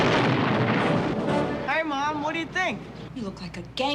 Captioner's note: explosion